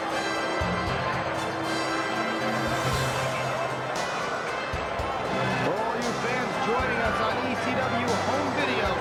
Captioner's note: crowd cheering